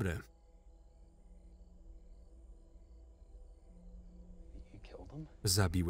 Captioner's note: crickets chirping; tense music